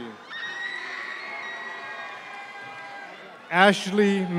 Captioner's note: audience member screams